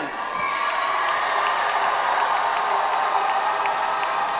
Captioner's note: audience applauds